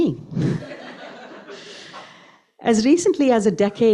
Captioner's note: laughs